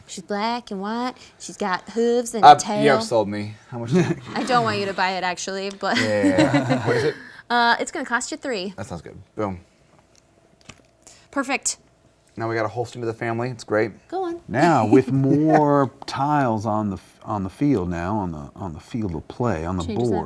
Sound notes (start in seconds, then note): 5.9 laughs